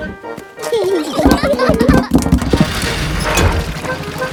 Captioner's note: children giggling